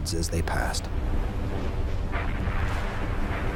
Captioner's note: booming